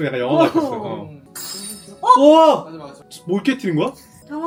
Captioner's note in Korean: 와장창